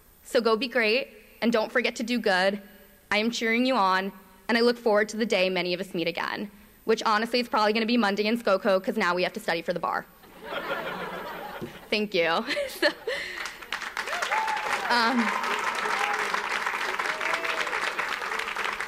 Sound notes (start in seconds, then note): 13.0 audience applauds